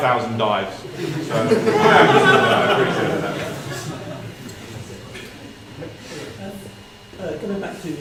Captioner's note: laugh